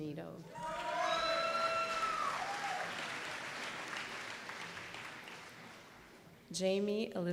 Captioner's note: applause